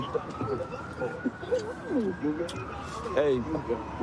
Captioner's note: kissing noises